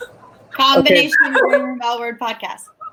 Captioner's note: laughs; talking and laughing over each other